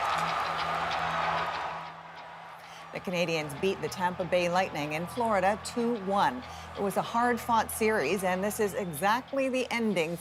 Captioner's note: cheers and Applause